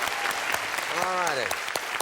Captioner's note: applause